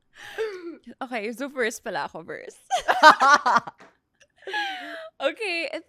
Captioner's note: laughs